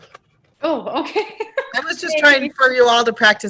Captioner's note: laughter